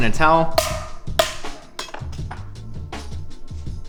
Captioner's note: mallet pounding